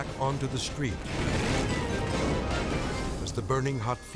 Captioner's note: tank explodes